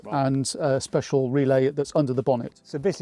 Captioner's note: none